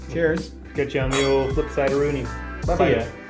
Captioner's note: in foreign language